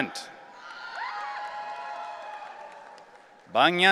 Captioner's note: audience cheering